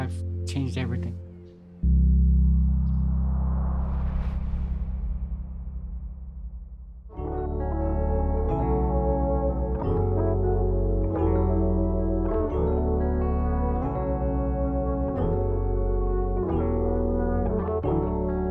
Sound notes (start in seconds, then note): 1.8 gentle music ends; 3.1 wind whooshing; 7.1 calming music begins